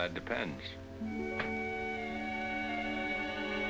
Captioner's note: door opens